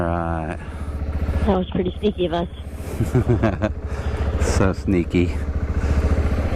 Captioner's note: laughing